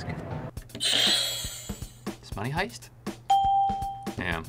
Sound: bell rings

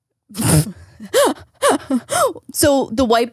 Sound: laughs

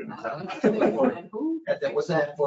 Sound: laughing

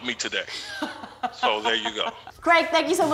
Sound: laughs

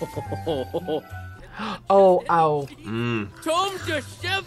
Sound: gasps

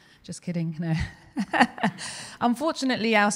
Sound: laughing

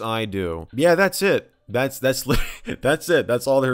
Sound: chuckles

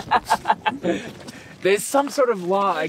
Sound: laughing

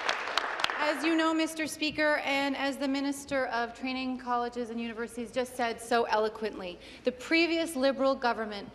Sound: applause

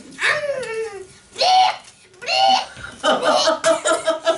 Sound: retching and coughing sounds; laughter

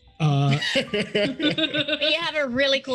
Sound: laugh

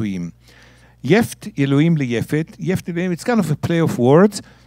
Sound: speaking in Hebrew

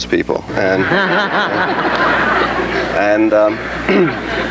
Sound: audience laughs

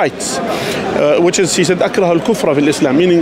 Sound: Arabic

